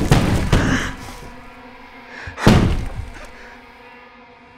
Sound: muffled crying

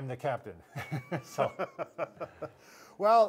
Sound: laughing

